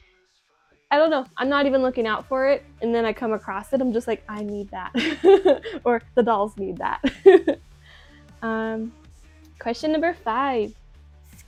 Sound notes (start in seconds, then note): 0.0 gasp; 7.0 laughs; 7.0 laughs again